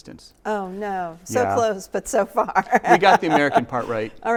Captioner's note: laughs